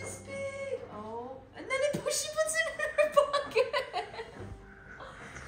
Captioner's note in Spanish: risas